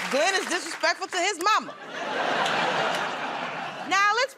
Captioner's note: laughter